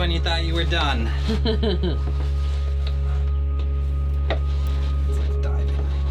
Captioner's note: laughing